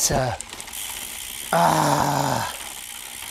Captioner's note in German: stöhnt